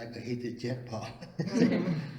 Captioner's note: laughs